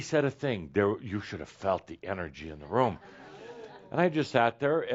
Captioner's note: some chuckles and someone says “Whoa!”